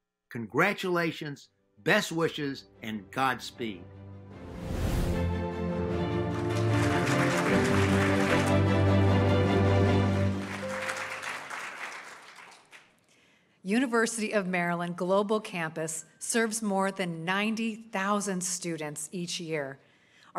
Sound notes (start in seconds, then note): 4.2 orchestral music; 5.9 audience applauding